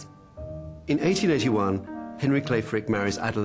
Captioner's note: voiceover